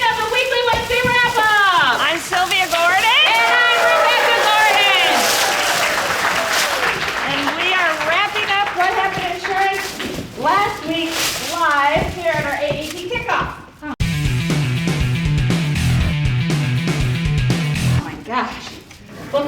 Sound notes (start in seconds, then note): 3.1 audience cheering; 14.0 upbeat rock music